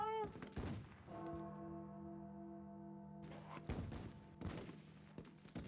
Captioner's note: distant gunfire